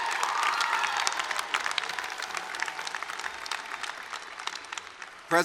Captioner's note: cheering and applause